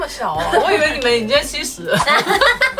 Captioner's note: laughs